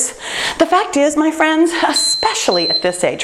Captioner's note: timer beeps